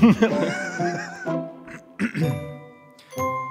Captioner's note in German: Räuspern